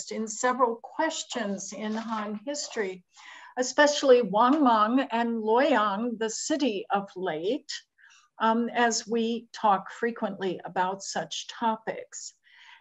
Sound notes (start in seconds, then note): 4.9 non-english